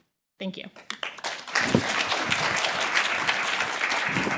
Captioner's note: applause